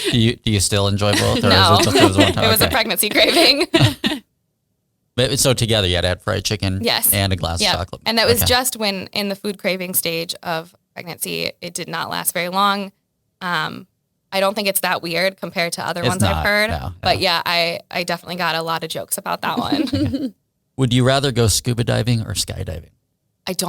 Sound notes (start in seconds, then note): 4.8 laughs; 19.6 all laugh